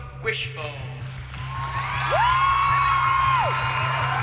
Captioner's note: cheering